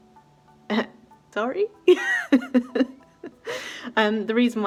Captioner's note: laughs in what have I done